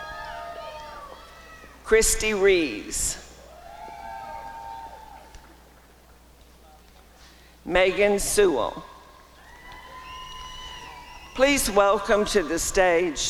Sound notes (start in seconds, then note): 3.6 applause and cheering; 9.5 applause and cheering